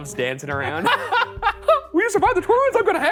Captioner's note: laughing